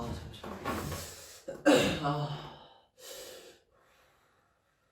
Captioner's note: clears throat